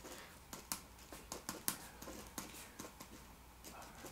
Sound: pen scribbling on paper

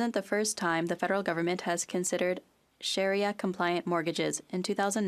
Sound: speaking French

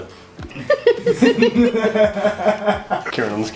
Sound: laughing

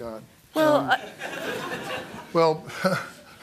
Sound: laughter

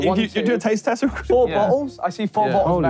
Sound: laughing

